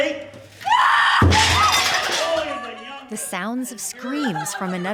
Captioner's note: woman screams; plates clattering